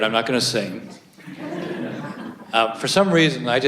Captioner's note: audience laughs